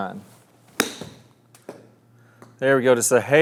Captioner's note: golf club strikes golf ball